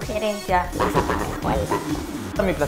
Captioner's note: demonic voice